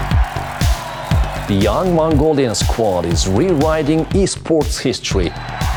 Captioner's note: crowd cheering; in English